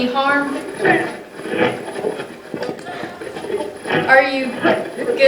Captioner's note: radio changing channels